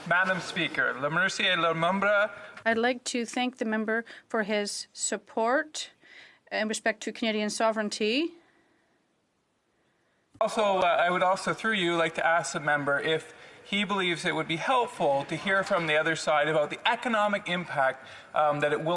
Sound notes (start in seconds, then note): 8.2 speaking French